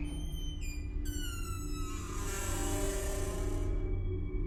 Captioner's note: door creaks